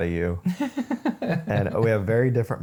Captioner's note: laughing